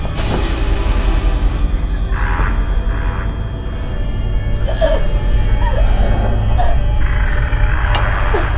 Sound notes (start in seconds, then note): 2.2 intense music; 4.6 Shelby choking